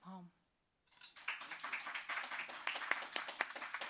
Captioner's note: applause